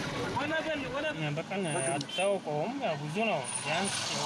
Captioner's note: speaking in foreign